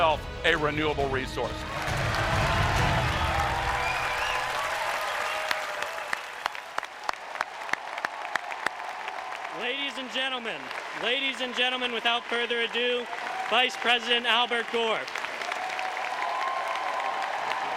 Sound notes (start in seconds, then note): 2.5 applause